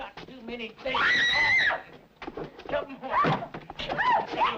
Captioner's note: woman screaming